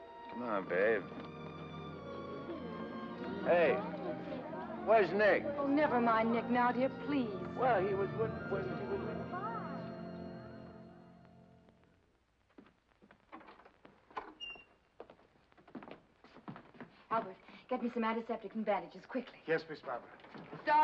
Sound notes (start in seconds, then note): 10.0 sentimental music; 14.0 door opens